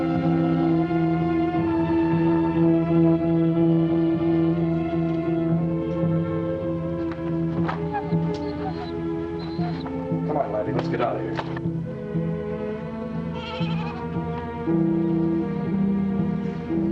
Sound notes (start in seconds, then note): 7.7 dog whimpering; 13.2 goats bleating